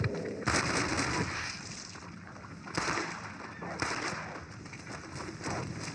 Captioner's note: mulking sound and wolf cries